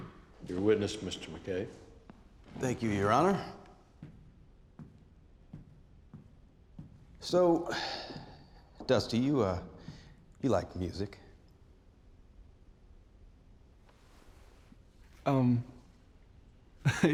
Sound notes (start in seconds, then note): 3.6 footsteps; 7.6 sighs; 16.8 chuckles